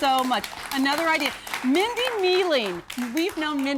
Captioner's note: �applause�